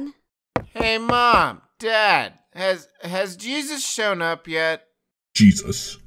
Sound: footsteps

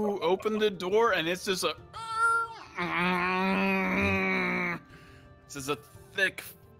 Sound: creaking and groaning noises

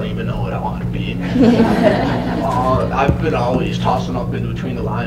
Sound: laughter

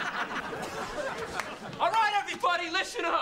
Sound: yells

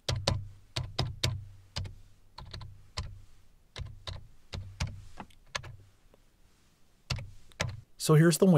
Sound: typing

